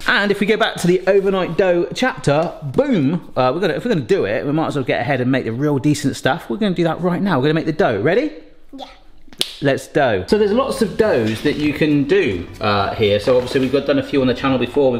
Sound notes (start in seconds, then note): 9.3 fingers snap